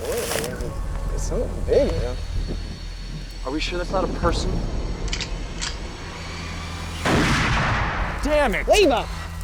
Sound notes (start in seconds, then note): 4.5 camera shutter clicks; 7.0 gunshot